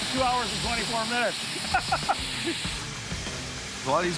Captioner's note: laughs